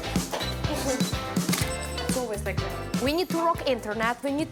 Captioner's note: camera snapping